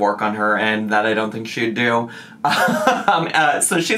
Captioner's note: laughs